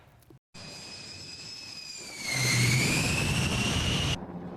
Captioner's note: engine rumbling